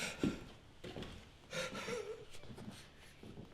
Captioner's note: Ron weeping